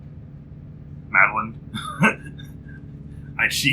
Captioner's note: laughs